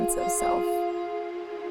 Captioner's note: birds chirping; calm music continues